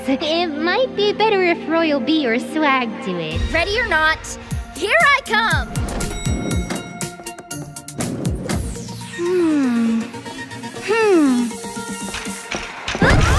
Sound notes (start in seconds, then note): 5.6 elevator dings